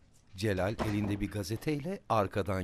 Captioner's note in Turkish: Kapı kapanma sesi